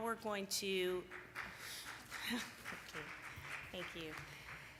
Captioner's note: applause